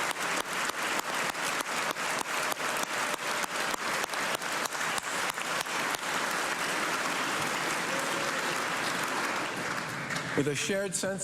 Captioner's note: cheers and applause